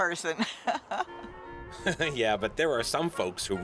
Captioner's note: laughing